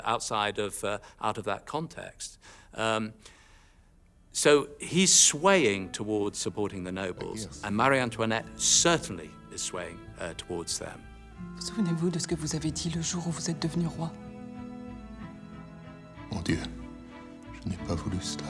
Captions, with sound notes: outside of, out of that context. So he's swaying towards supporting the nobles. And Marie Antoinette certainly the swaying towards them. (people speaking in French) (somber music)